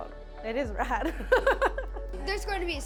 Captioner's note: laughing